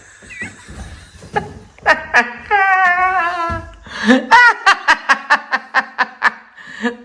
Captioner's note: laughs